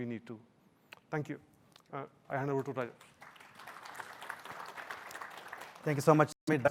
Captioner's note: applause